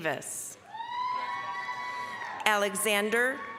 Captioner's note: applause, cheering